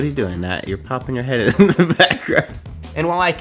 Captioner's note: laughs